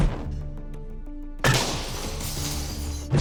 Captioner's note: glass shattering